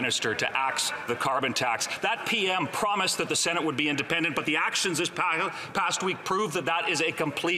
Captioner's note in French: voix de l'interprète